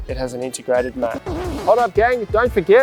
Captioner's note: record scritching